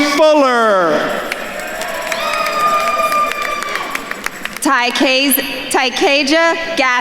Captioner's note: attendees cheering and applauding